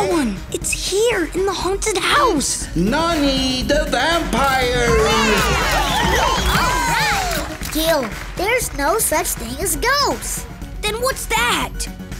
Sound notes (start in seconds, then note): 4.8 cheering